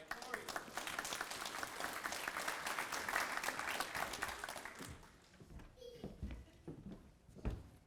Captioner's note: applause